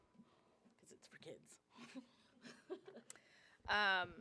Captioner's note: laughs